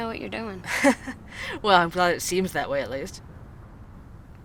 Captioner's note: laughing